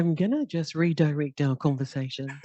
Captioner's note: laughter